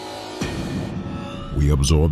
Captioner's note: cinematic hit